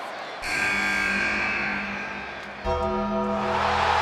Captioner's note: buzzer buzzes; ominous music; audience cheers